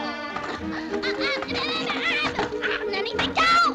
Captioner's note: squealing